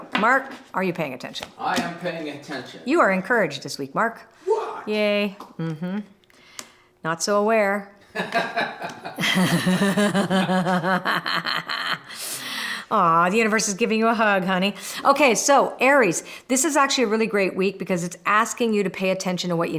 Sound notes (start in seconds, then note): 8.1 laughter